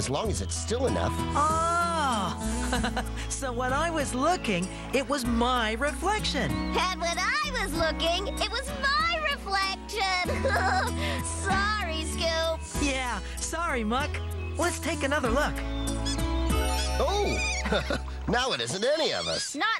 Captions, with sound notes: AS LONG AS IT'S STILL ENOUGH. OHH! ( Chuckling ) SO WHEN I WAS LOOKING, IT WAS MY REFLECTION-- AND WHEN I WAS LOOKING, IT WAS MY REFLECTION! HA-HA-HA! SORRY, SCOOP! YEAH, SORRY, MUCK, LET'S TAKE ANOTHER LOOK... ( Squeaking ) OH! ( Chuckles ) NOW IT ISN'T ANY OF US!